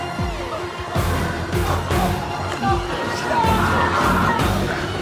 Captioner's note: intense music continues; biker whimpering